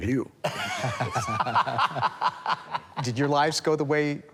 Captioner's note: laughs